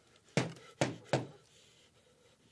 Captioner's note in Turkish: Kapıya vuruyor